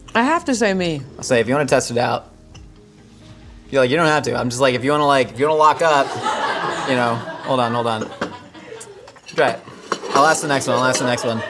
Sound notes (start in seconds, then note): 8.0 laughing